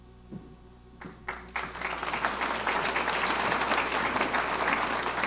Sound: audience applauding

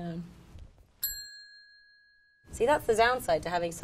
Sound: bell ringing

